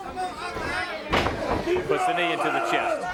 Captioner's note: crowd chatter